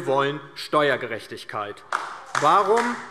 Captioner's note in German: Beifall DIE LINKE und SPD